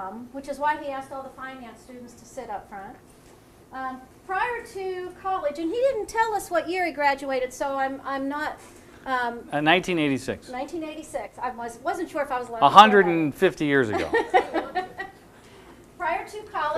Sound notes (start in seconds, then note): 13.9 audience laughter